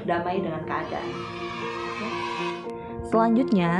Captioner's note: kids cheering